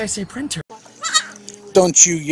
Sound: goat screams

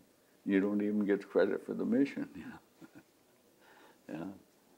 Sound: laughs

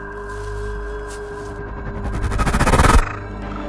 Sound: whoosh; haunting music

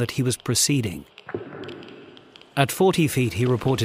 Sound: geiger counter clicking; feet clanking

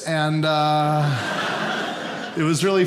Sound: audience laughing

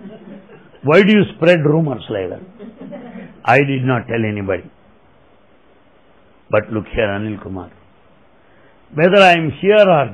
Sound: laughter; laughter

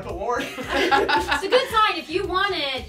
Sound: laughs

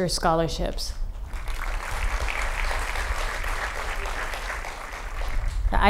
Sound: applause

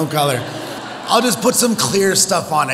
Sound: audience laughs

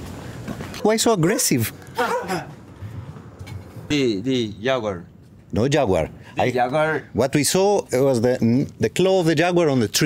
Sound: laughing

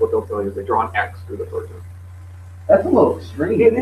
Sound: laughs

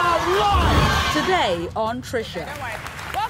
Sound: audience applause

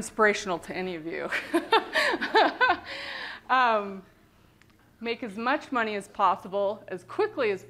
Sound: laughter

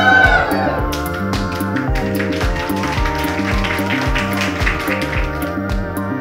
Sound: cheering; clapping; synth music playing

